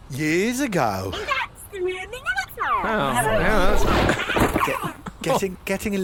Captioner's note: droid crashes